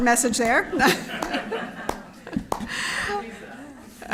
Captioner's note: chuckles